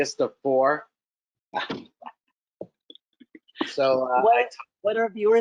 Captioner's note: laughing